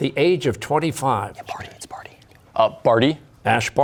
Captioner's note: whispering